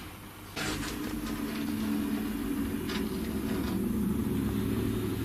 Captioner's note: faint scratching